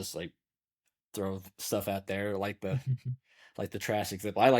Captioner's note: chuckles